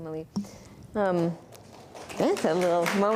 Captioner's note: applause